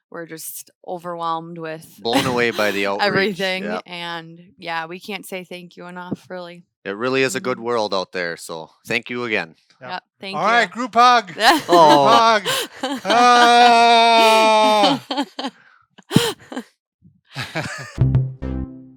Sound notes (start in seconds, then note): 2.1 laughs; 11.3 laughing; 13.0 exclaiming; 14.1 bouncy effect